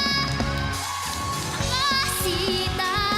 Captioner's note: audience cheering